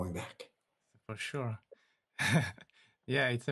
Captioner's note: chuckles